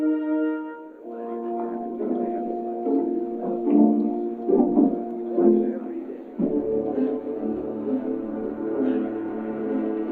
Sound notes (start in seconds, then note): 1.1 indistinct chattering; 6.3 ominous music